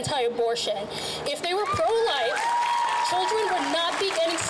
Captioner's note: crowd cheers